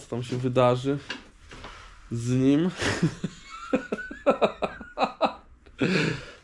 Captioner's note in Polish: śmiech